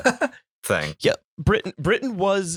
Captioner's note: laughter